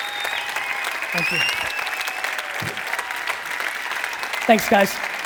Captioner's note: audience clapping